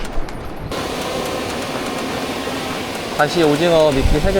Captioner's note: drone takeoff again